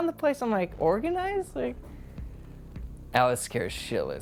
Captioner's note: none